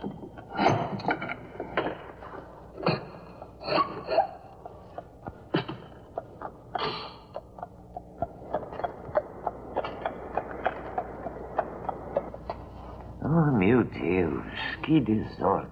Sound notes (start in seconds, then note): 4.7 hooves clopping